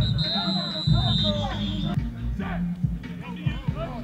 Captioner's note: whistle blowing